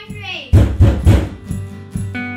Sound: banging on the door

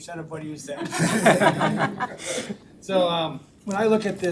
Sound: all laughing

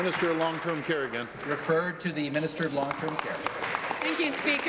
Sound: applause

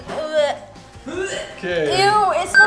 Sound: gagging

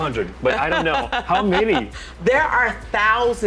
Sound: laughs

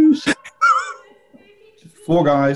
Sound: sniggering

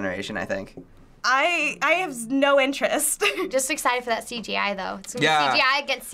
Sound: chuckles

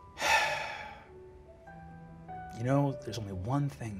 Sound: sighing

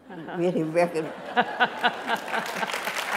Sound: applause

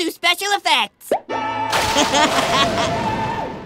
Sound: chuckling

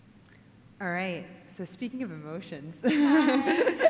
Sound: laughter

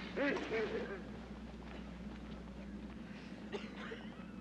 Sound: footsteps

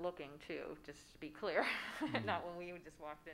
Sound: laughs

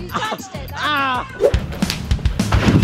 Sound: groans; rock music

